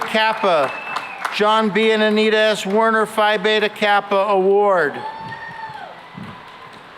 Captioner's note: cheering